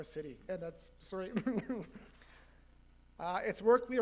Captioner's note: getting choked up